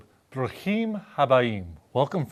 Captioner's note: speaking in Hebrew